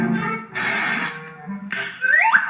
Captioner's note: whirring